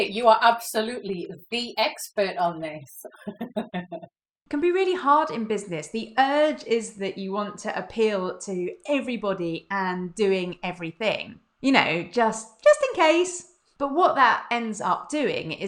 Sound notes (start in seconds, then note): 3.0 giggles